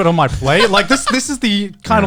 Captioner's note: chuckling